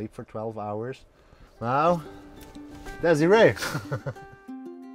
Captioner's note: laughter